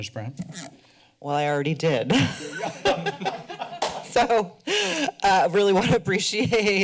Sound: laughter

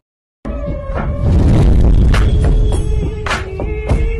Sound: thud

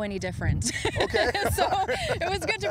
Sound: laughs

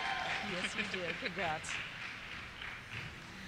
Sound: voiceover

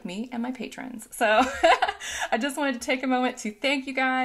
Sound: laughing

